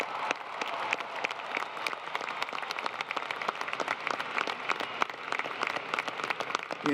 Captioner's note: applause